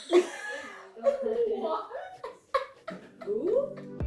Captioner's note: laughing